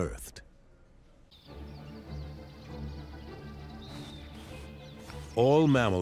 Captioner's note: birds chirping